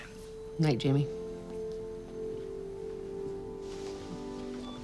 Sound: footsteps approach; cellphone beeps

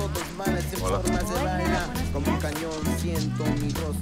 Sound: spanish speech

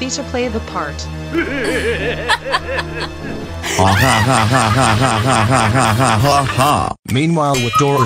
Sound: both laughing evilly

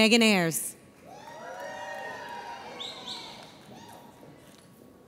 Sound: audience cheers

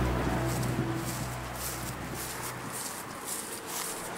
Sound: footsteps

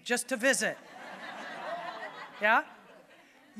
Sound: audience laughing

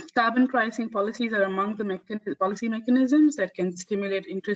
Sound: audio static

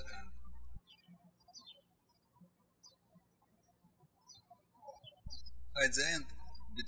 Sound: birds chirping

